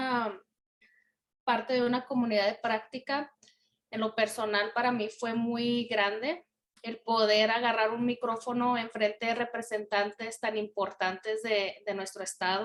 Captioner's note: in Spanish